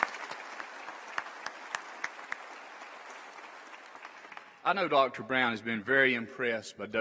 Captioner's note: applause